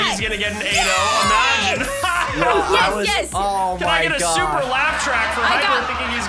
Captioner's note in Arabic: يضحك دراماتيكي